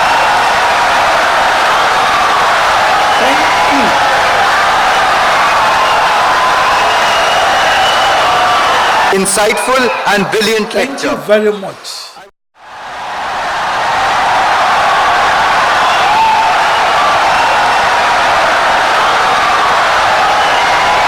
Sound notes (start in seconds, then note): 5.6 wild applause and cheering for 17 seconds